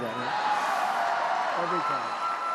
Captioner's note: applause